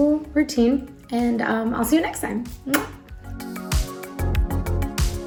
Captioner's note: kiss smacking; soft music